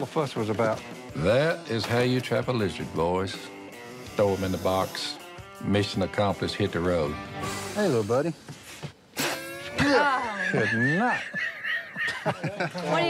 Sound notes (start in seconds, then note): 7.4 hisses; 9.2 laughs